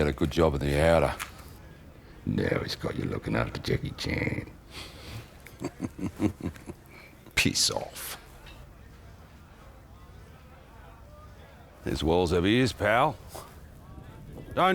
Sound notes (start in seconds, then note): 4.8 laughing